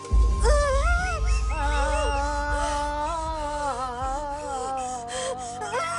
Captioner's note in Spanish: Gritos de la parturienta y la partera vocaliza monosílabos